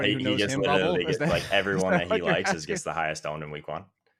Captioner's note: laughs